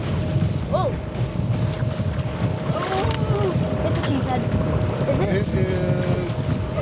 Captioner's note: fish splashing